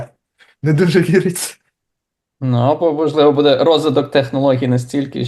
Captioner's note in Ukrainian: сміється